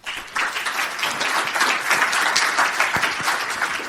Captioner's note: applause